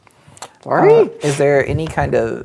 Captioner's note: exclaims